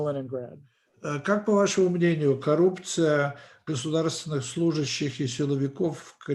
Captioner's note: translator speaking Russian language